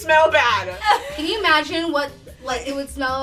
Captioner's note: laughing